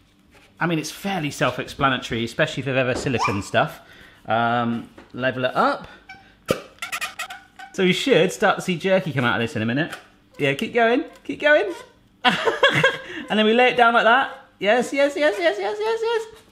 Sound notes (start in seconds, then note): 6.5 gun pops suction; 6.7 gun squeaks; 11.7 laughs